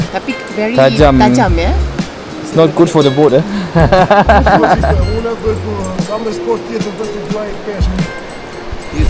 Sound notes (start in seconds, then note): 3.6 laugh